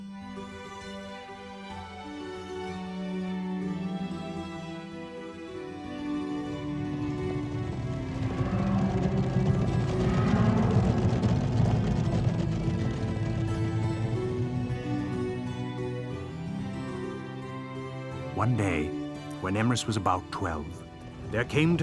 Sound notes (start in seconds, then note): 0.4 gentle music; 8.1 hooves beating